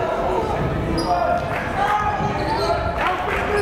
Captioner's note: yelling